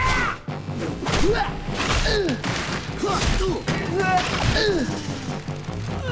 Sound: grunting

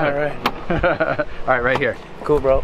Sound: laughs

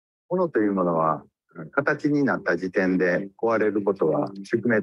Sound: speaks in Japanese

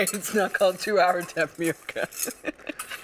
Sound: laughs

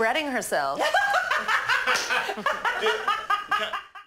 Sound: all laughing

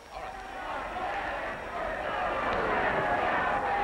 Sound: cheering

